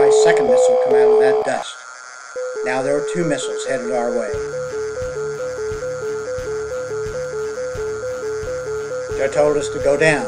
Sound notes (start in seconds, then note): 6.8 growling SAM tracking and Alarm Bells